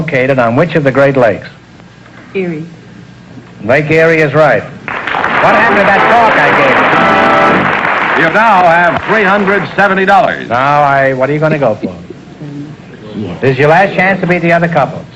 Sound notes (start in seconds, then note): 7.0 applause